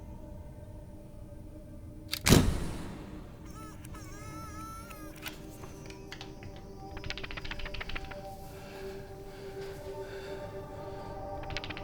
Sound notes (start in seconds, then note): 2.1 camera flickers; 5.0 looming music